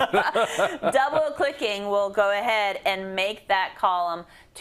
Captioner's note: laugh